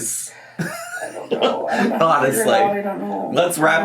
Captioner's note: laughs